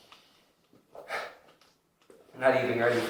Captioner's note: sigh